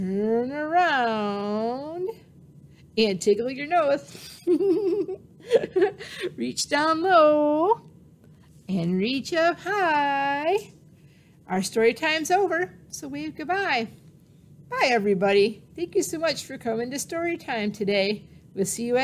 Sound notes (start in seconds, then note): 4.2 laughing